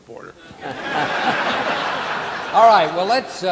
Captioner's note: audience laughing